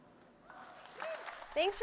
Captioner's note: applause